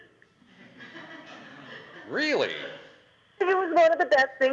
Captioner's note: audience laughter